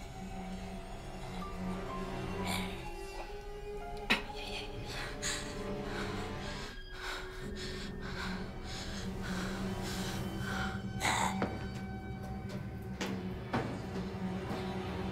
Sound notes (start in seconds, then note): 2.5 Tracy snarling; 5.0 Lyne whimpering; 11.2 Tracy snarling; 12.0 suspenseful music